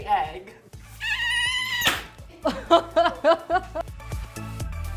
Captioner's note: high pitch sound; laughing; upbeat music